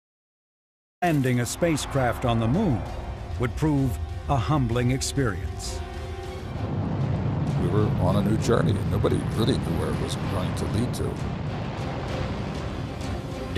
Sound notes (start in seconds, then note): 8.0 rocket engines roaring